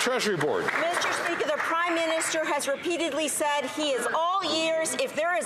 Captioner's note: some Applause